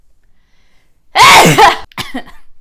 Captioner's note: aggressively loud sneeze